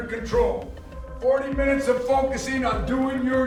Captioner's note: distant shouting